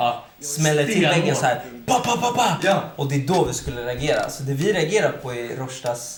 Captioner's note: bam bam bam